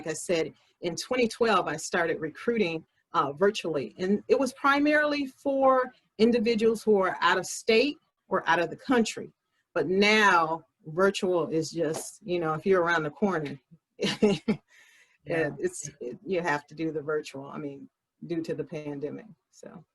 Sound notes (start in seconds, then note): 14.0 laugher